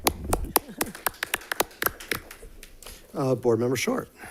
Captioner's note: all clapping